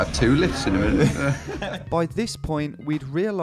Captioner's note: laughs